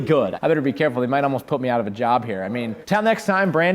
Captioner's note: none